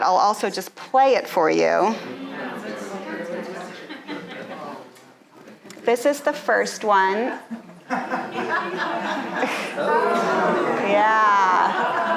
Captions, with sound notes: I'll also just play it for you. (audience chattering) This is the first one. (audience laughing) - Oh. - Yeah.